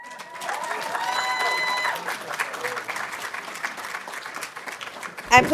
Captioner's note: audience cheering and applauding